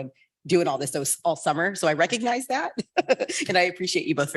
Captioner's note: laughs